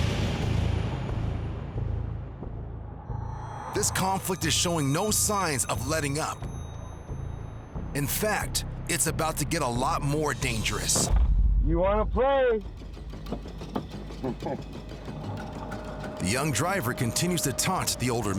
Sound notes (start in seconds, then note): 14.2 man 1 laughs